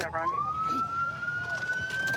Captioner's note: sirens